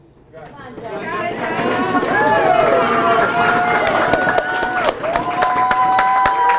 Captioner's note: audience cheers and applauds